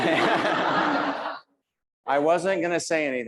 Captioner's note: audience laughs